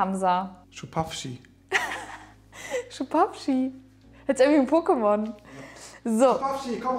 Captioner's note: laughing